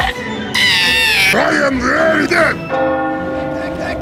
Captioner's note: shrieks like a girl